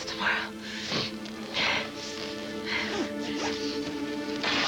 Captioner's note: sniffs